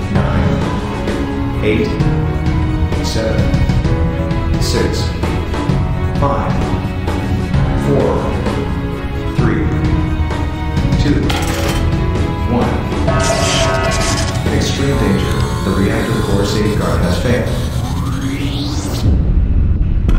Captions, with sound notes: Nine Eight Seven Six Five Four Three Two One *Announcement Chime and electric sparks* Extreme danger, the reactor core safeguard has failed.